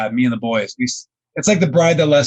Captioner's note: laughing